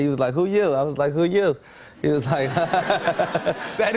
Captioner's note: laughter